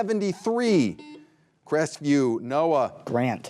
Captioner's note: buzzer buzzing